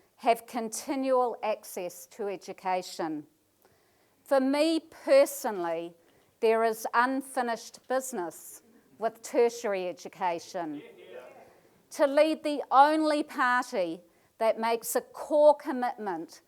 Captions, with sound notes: have continual access to education. For me personally there is unfinished business with tertiary education. [audience calls "hear hear"] To lead the only party that makes a core commitment